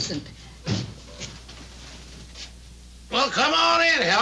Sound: door thudding

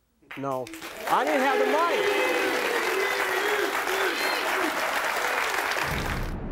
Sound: audience applauds

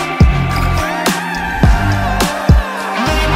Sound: ooh

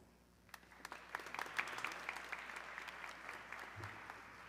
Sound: audience clapping

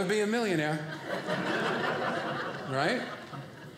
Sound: audience laughing

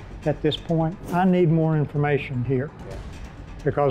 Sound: whooshing

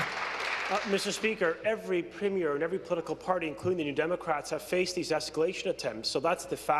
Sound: applause

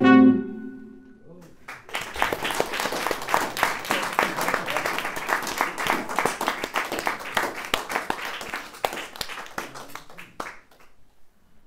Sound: applause

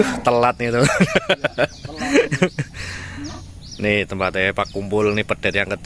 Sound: laughs

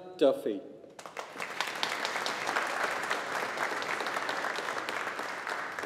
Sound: audience applauding

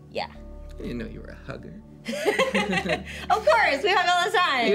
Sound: both chuckle

